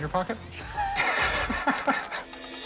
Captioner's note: laughter